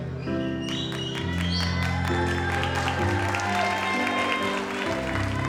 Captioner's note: audience applauds